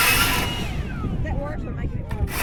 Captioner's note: sawing